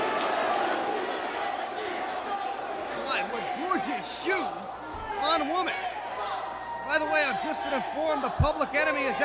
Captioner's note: crowd cheering